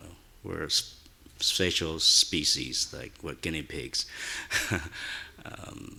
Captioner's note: chuckles